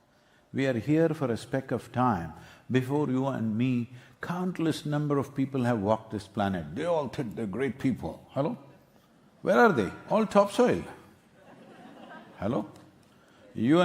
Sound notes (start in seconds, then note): 11.3 few laugh